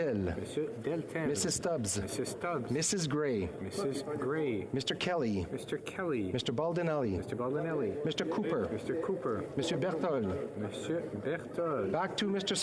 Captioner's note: calling of recorded vote